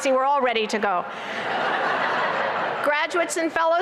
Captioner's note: laughter